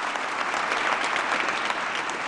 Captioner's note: applause